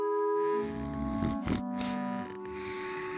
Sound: snoring

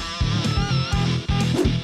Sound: whooshing; beeping; whooshing

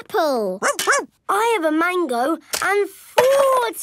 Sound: barks

